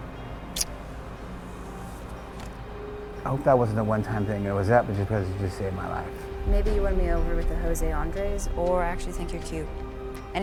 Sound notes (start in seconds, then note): 0.6 lips smacking